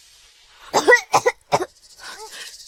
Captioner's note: coughing